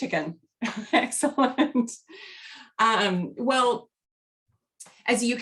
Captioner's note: laughter